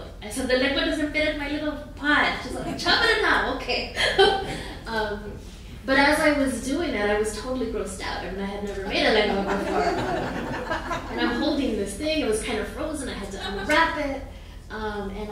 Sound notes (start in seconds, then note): 2.5 laughing; 9.2 audience laughing